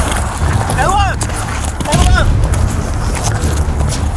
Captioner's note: inaudible yelling